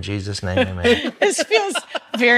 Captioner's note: laughs